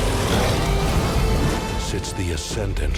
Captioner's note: roars